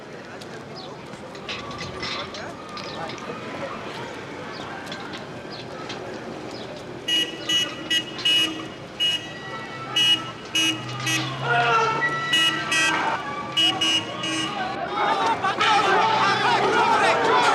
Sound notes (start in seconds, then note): 7.0 car horn; 14.9 shouting